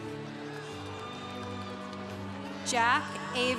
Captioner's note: congregation cheering